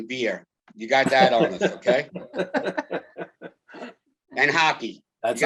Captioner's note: chuckle